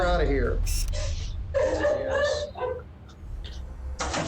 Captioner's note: sobbing